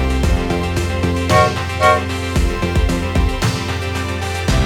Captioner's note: horn